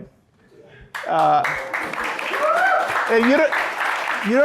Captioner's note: audience applauding